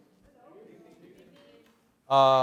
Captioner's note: voiceover